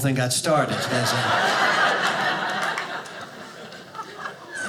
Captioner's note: audience laughing